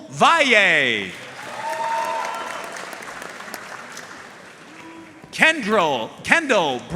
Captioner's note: audience cheering and applauding